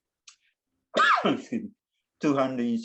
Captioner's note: coughs